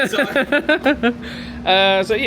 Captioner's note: laughs